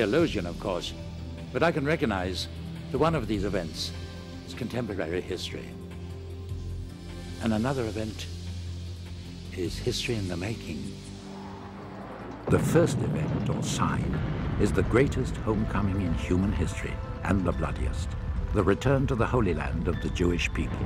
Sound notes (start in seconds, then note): 10.1 gentle music; 11.4 explosion booms